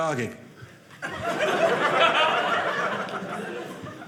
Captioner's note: audience laughing